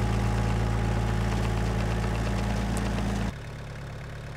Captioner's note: engine idling